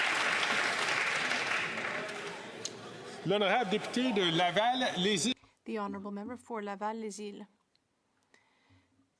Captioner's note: some Applause